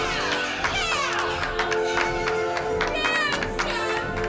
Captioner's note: everyone cheering